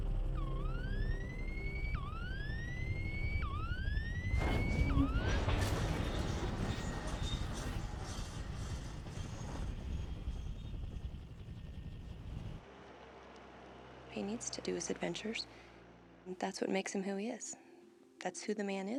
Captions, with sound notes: (Siren sounding) (Airplane landing) He needs to do his adventures. That's what makes him who he is. That's who the man is,